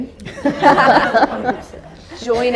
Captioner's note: audience laughter